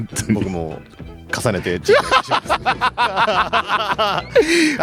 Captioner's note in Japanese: 笑い